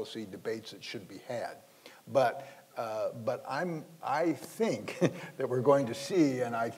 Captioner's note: laughs